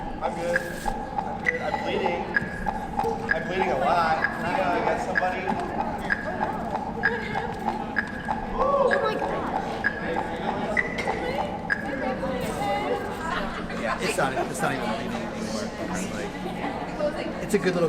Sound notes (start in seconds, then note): 6.1 chorus of concerned mutterings from teammates